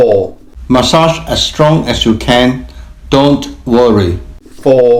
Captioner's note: voiceover